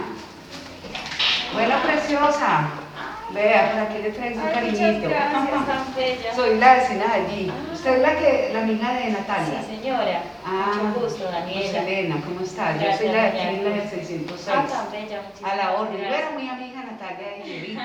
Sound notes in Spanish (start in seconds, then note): 9.7 Mujer habla